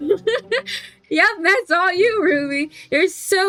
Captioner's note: laughs